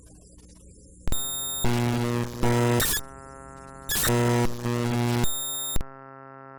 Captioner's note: beeping noises